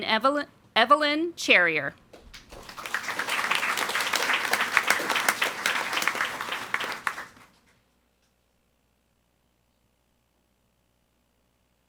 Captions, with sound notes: And Evelyn Cherrier. (audience applauding)